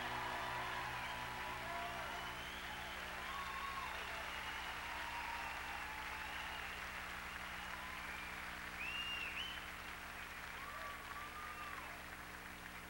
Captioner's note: crowd cheering